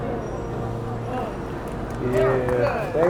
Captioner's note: applause~ Clap clap clap